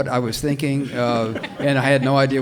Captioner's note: audience laughs